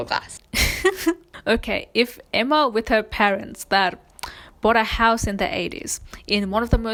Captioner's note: laughs